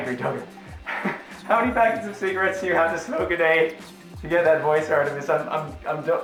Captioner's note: laughs